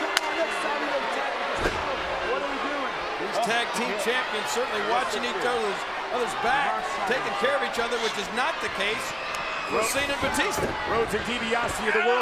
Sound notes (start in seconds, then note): 0.1 claps; 1.6 crowd booing drowns out ref speaking